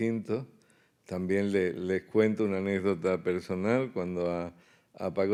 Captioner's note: speaking in Spanish